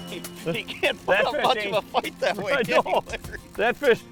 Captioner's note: laughter